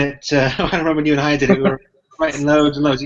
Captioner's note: laughs